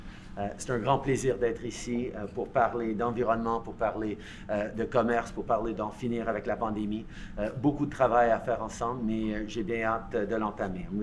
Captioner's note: speaks in French